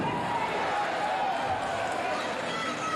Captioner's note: cheers and applause